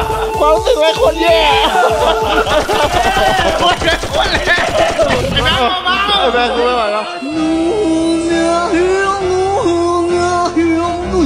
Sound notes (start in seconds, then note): 0.0 laughs; 7.3 funny music playing